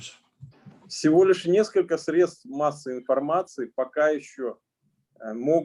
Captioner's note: speaking Russian language